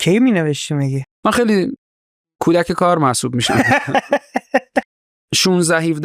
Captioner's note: laughs